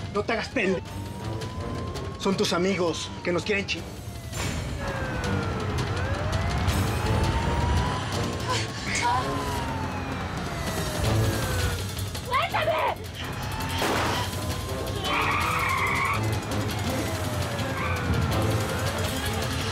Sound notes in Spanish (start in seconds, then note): 9.1 sirenas; 13.8 detonación de disparo; 15.7 chirrido de neumáticos